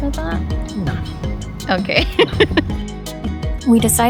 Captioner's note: laughing